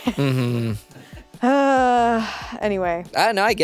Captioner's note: sighs